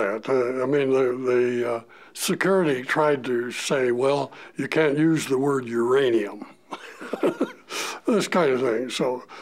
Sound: chuckle

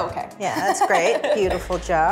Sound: laughs

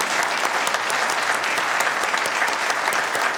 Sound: applause

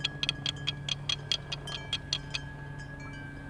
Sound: rattling

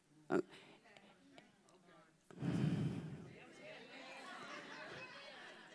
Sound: congregation chattering

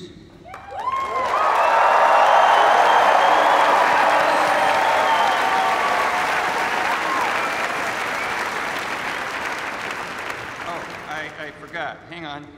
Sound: cheers and applause

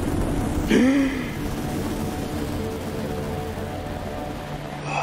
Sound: Papi gasps

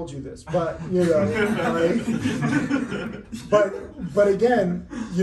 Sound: everyone laughing

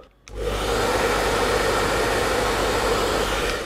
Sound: dryer blowing

